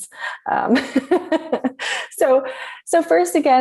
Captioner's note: laughs